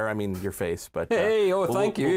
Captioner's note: laughter